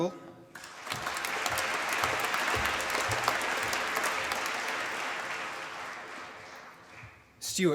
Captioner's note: applause